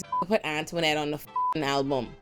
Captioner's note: beep